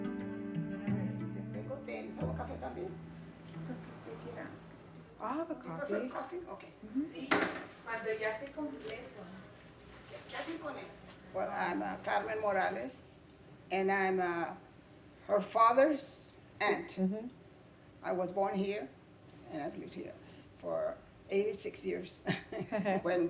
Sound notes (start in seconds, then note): 1.3 group speaking in Spanish; 7.3 both speaking Spanish; 22.3 laughs